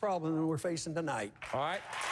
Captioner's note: applause